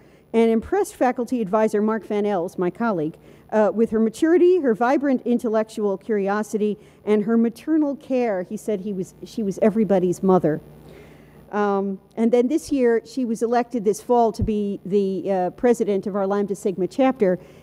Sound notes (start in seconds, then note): none